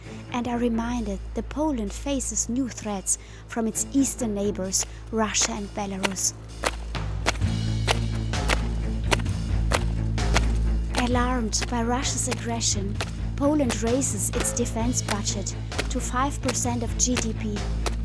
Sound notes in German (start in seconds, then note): 6.6 Geräusch Marschstiefel